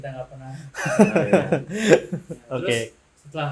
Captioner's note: laughter